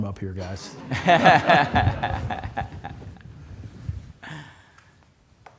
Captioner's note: laughter